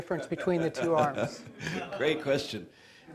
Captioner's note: laughter